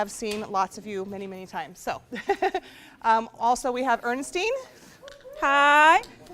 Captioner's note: laughs